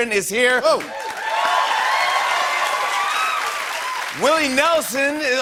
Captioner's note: cheers and applause